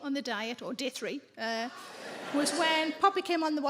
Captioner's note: audience laughing